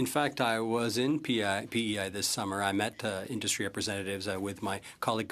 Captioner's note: speaking French